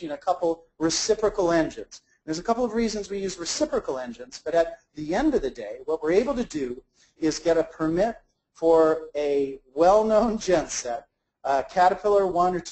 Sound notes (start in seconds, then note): none